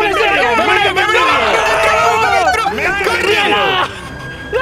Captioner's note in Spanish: gritan mucho